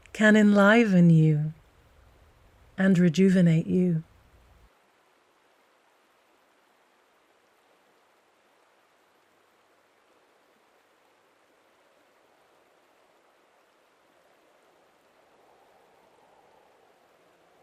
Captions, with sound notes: Can enliven you and rejuvenate you. (wind blowing softly)